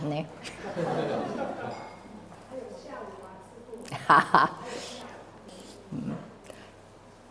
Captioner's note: laughter